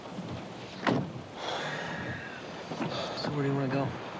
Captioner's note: sighs wearily